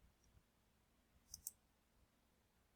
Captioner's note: mouse clicking